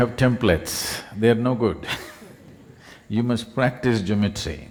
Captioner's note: few Laugh; laughs